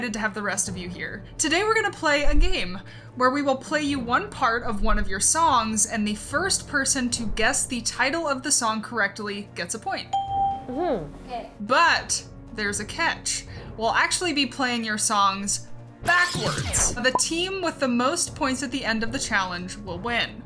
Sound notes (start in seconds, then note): 10.1 ding; 16.1 audio rewinding